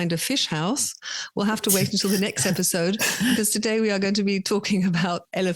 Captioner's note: laugh